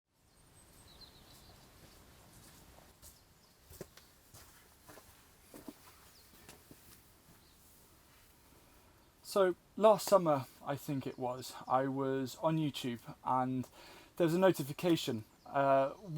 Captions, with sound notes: (birds chirping) (foot steps approaching) - So last summer, I think it was, I was on YouTube and there was a notification.